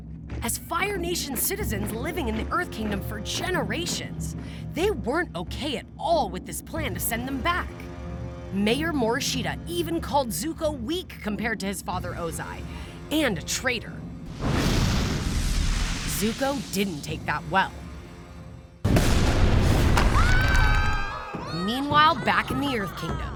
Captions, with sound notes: As Fire Nation citizens living in the Earth Kingdom for generations, they weren't okay at all with this plan to send them back. Mayor Morishita even called Zuko weak compared to his father, Ozai and a traitor. Zuko didn't take that well. [screaming] Meanwhile, back in the Earth Kingdom,